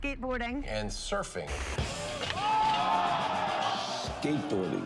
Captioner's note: crowd cheering